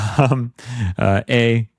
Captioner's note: laughs